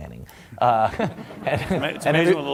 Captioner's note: laughter